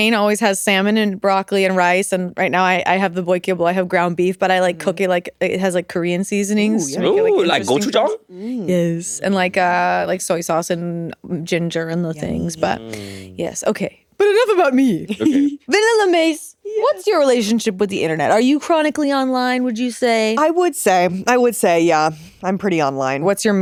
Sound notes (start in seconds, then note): 14.9 giggling